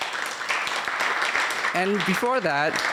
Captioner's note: applause